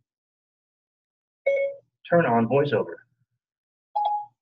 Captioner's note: tone sounds; 2nd tone sounds